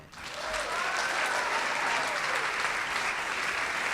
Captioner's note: audience claps